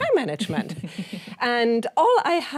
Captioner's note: chuckling